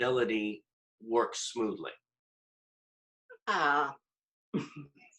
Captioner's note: laughter